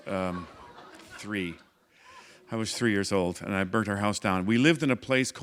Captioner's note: laughter